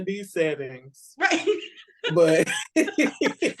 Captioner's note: laughing